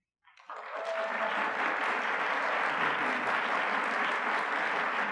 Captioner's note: audience clapping